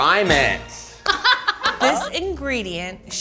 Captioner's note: laughing